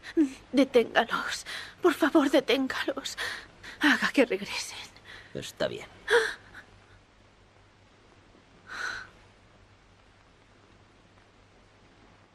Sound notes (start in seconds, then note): 8.7 Dawn gasps